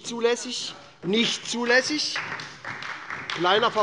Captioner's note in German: Beifall bei der SPD